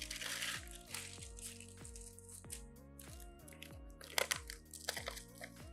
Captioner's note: relaxed electronic music; crunching and crumpling